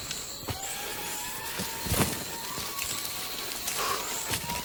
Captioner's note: lemur cry